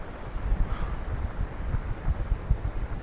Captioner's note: sigh